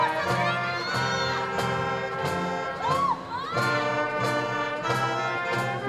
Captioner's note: person in audience shouting